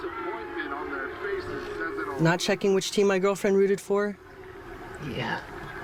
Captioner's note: football on TV